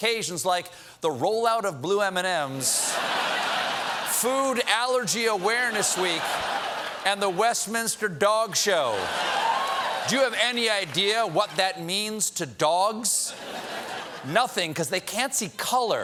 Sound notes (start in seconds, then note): 8.6 laughter